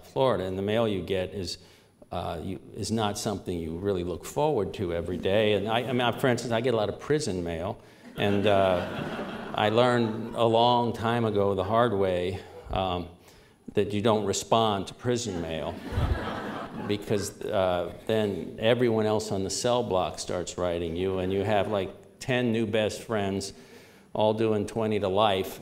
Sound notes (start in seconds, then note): 8.0 laughter; 15.3 laughter